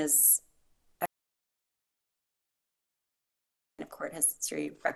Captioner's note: audio cuts out